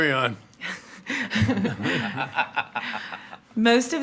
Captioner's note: attendees laughing